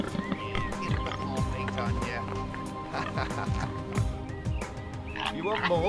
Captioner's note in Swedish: skrattar